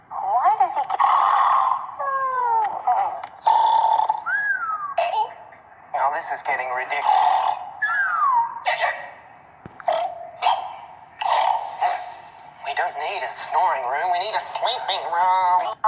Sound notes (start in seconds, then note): 0.9 snoring horses; 3.8 snoring whistle squek; 7.8 snoring whistle squeak